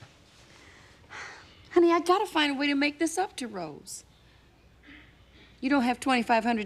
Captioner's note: sighing